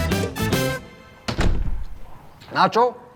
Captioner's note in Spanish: Sonido al cerrar la puerta